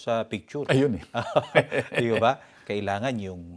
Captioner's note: laughs